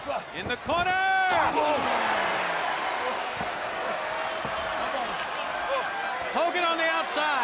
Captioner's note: crowd cheering